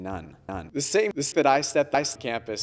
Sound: audio echoes

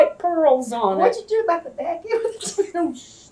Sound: laughs

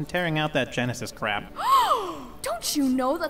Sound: horrified gasp

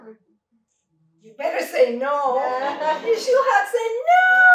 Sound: laughter

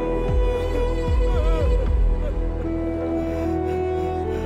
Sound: Ranga crying

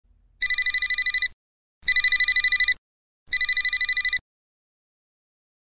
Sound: phone ringing

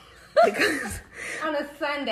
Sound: laughing

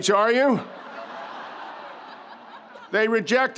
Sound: audience laughs

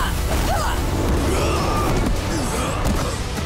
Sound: grunting; groaning

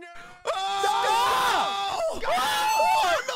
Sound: screaming

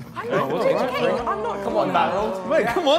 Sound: all laughing and talking

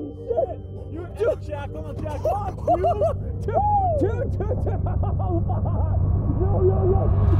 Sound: passenger whooping

